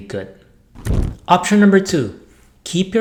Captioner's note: flames whooshing